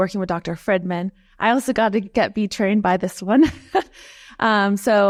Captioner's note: chuckles